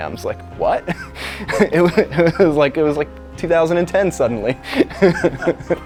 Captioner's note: laughs